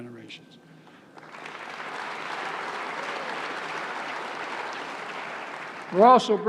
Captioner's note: applause